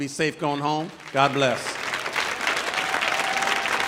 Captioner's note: audience applauding; audience cheering